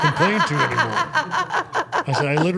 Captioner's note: interviewers laughing